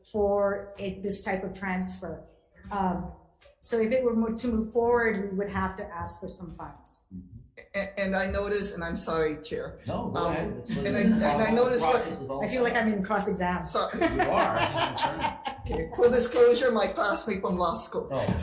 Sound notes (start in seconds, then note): 13.8 laughing